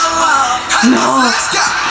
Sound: in disbelief

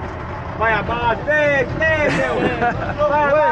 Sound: locals speaking Portuguese; laughing

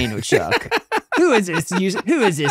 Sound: laughing

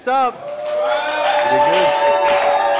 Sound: cheering

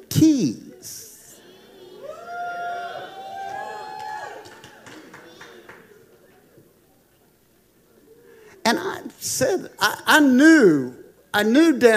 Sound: congregation applauding

